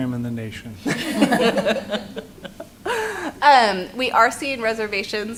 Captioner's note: laughter